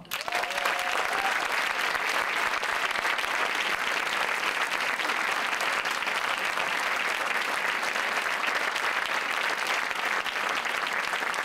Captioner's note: applause